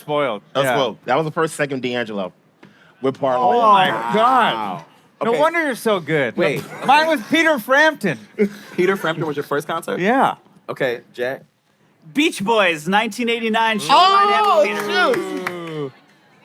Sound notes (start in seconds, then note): 3.9 gasping; 14.3 applauding